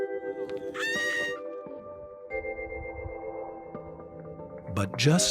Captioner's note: woman happily screams